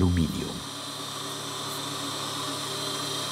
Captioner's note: whirring